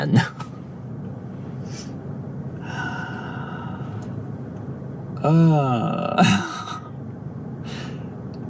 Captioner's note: sighs